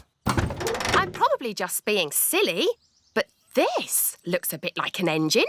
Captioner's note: none